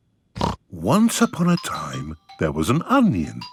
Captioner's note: snorting; laughing